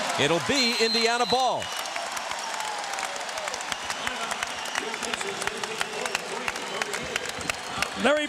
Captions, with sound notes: IT'LL BE INDIANA BALL. [APPLAUSE]